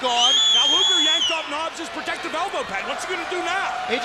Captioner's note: crowd chatter